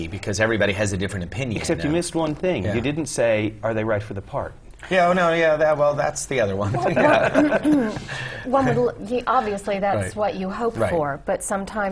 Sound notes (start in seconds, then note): 6.7 laugh